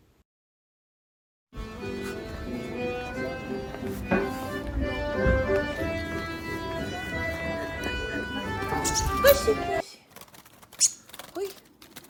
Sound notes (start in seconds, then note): 0.0 silence; 1.6 accoustic music plays; 8.0 bird sounds; 8.8 accoustic music plays; 10.8 bird sounds